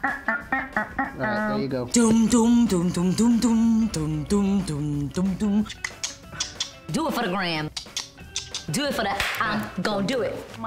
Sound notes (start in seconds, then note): 1.9 beatboxing; 9.2 claps